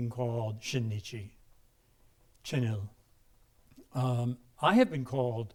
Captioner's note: speaking in a foreign language